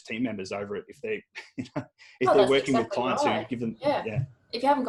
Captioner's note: laughs